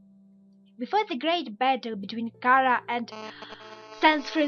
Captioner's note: gasp